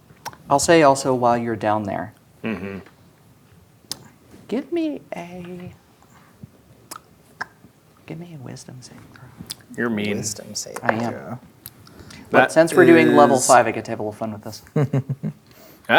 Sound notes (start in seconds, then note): 6.8 clicks tongue; 8.1 quietly; 14.7 chuckling